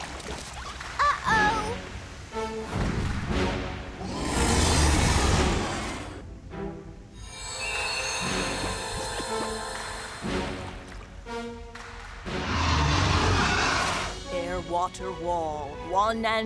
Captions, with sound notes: UH-OH! [ROARS] [ROARS] "AIR, WATER, WALL, ONE AND THE SAME,